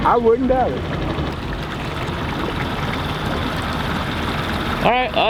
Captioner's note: boat engine whirring